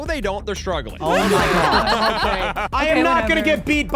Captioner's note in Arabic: يضحك المشاركون